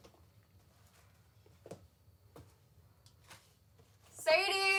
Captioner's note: footsteps echo